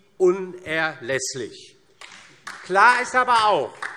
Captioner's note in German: Beifall DIE LINKE